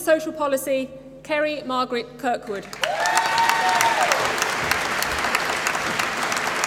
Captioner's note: applause